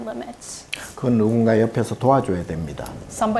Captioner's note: speaking Korean